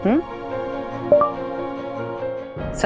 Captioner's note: phone beeping